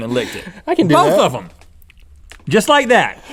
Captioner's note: laughs